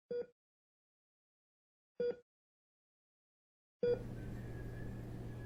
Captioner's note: heart monitor beeping